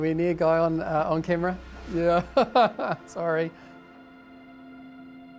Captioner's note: chuckles